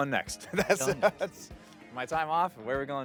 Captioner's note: laughing